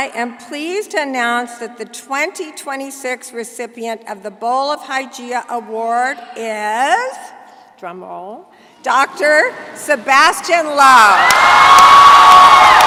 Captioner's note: cheering